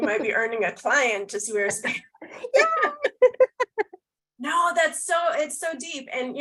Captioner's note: laughter